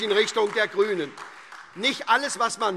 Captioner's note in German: Vereinzelter Beifall SPD - Beifall AfD und Freie Demokarten